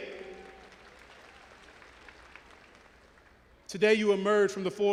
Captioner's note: audience applauding and cheering